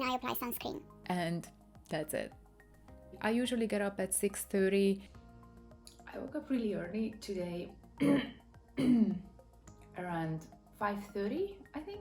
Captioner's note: cough cough